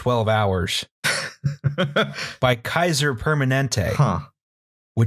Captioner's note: laughter